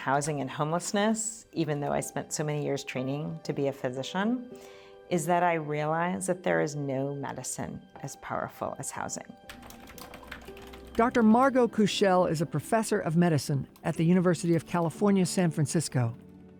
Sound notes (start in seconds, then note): 9.4 keyboard keys click